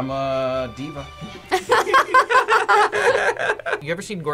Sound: both laugh

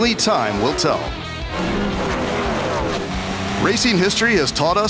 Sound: revving engines

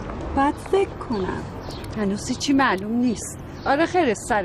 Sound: mocking

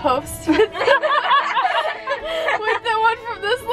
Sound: laughing

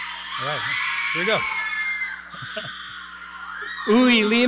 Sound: chuckles

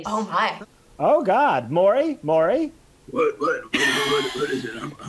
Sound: laughs

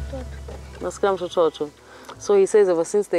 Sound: speaks in Giriama

